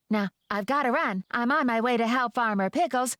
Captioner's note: none